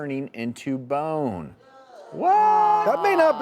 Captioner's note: audience groaning